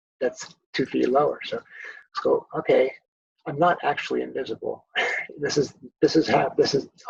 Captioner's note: laughs